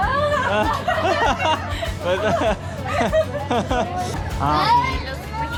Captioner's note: everyone laughs in relief